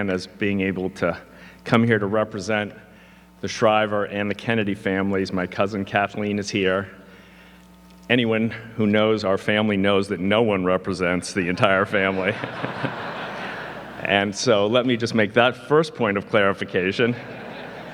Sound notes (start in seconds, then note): 11.8 audience laughing; 12.0 laughs